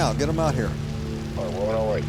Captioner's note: on phone